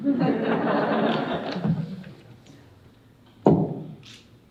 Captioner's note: audience laughing